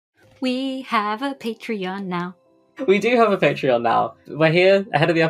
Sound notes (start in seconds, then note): 0.5 sing-song